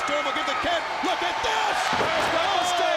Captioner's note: crowd cheering